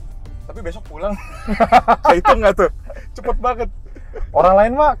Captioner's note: laughing